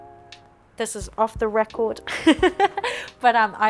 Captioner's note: laughs